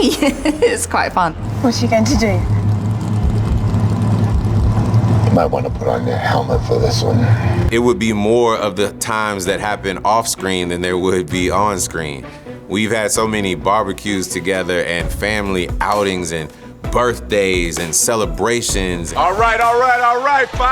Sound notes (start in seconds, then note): 0.0 laughs; 2.4 engine running